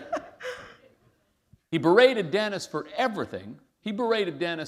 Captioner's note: laughter